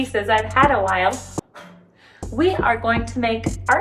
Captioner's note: blowing